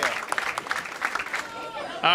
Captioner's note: applause